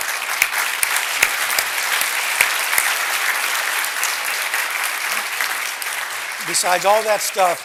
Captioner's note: applause